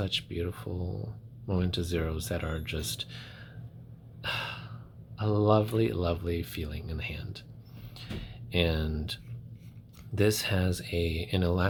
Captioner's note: satisfied sigh